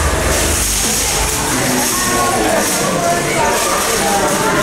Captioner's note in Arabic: حفيف ليجو